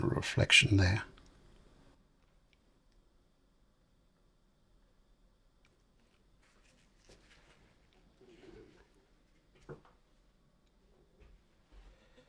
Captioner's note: silence